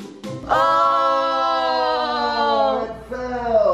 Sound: exclaim

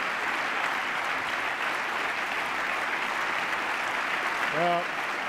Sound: applause

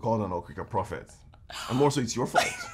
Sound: Efosa laugh

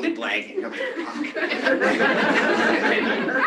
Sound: laughter

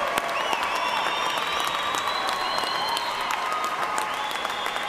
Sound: cheers and applause

